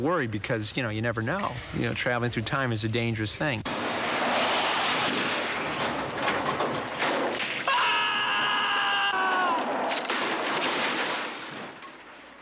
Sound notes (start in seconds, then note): 7.6 screams; 9.7 crashes